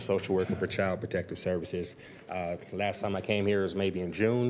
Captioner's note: laughter